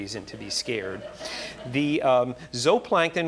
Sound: audience laughing

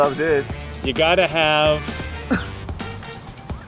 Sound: exhales in disbelief

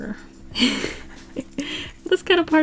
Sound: laughs

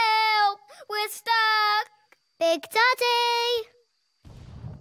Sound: thundering footsteps

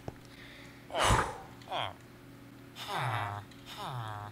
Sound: loud exhale

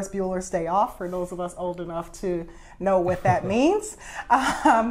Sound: laughs

